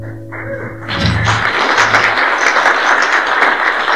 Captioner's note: applause